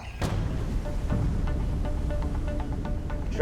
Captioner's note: engine rumbling